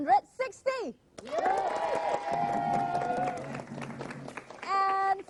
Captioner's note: cheering